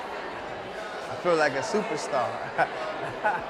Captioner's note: laughs